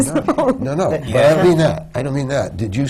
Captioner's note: laughs